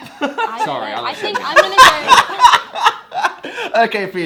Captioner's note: laughs and breaks the sound barrier